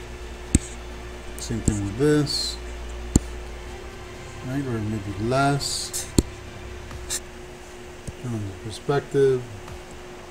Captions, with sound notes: Same thing with this. (computer mouse tapping) (faint adventurous music) Right, we're gonna make it less. And the perspective.